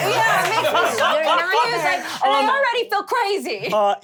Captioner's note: laughter